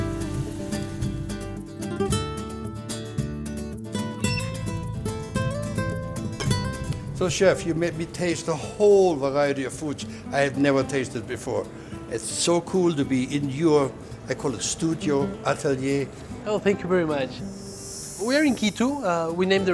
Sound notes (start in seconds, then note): 4.3 door squeaks; 6.0 fire crackling